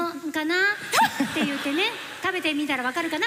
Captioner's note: laughter